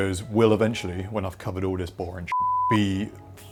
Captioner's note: beep